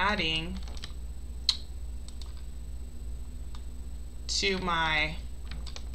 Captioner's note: mouse clicks